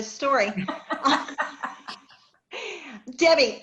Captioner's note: laughter